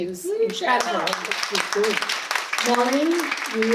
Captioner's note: audience applause